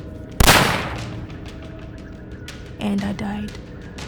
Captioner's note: gun firing